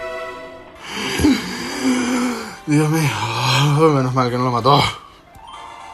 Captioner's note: big sigh of relief